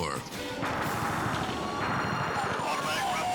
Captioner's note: gunfire banging